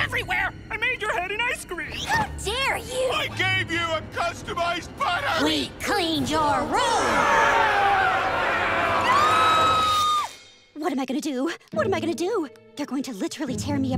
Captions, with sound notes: I made your head in ice cream! How dare you! I gave you a customized putter! We cleaned your room! [screaming] What am I gonna do? What am I gonna do!? They're going to, literally, tear me apart.